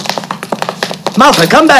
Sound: feet shuffling

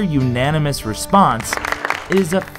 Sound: applause

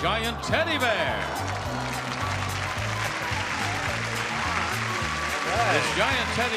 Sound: audience cheering and laughing

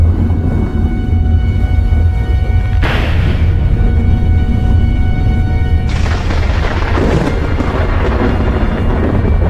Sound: spooky thunder

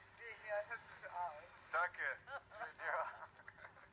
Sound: they both giggle

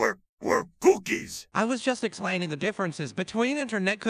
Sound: confused

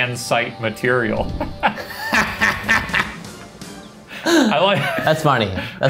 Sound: laughing

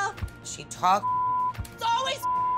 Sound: beep

